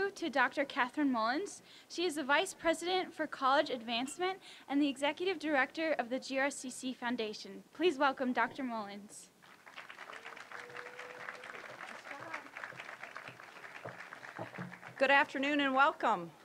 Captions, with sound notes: to Dr. Kathryn Mullins. She is the Vice President for College Advancement and the Executive Directory of the GRCC Foundation. Please welcome Dr. Mullins. (applause) >> Good afternoon and welcome!